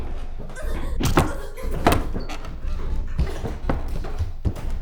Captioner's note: Catherine whimpering